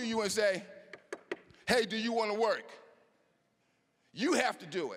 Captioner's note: knocking